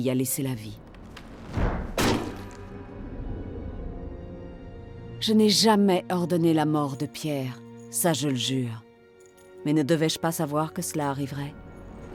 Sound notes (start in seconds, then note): 0.1 suspenseful music; 1.0 head thuds